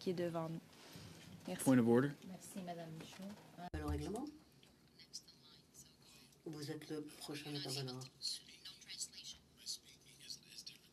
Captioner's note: speaking French